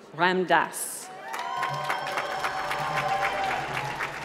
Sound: applause

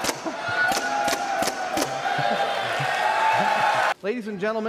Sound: applause

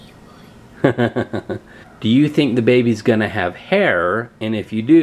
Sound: laughs

